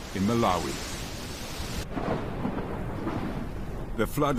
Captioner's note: water rushing